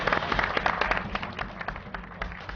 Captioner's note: applause